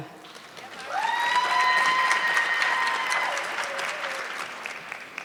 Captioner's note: audience clapping